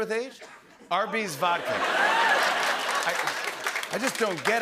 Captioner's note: laughter and applause